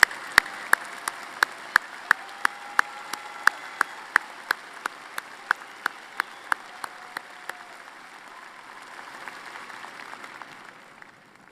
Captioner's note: applause